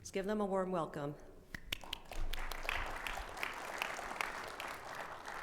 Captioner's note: audience applauds